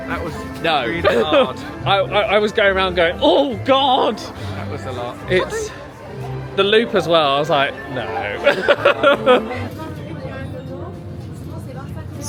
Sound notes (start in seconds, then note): 0.7 chuckles; 7.9 laughs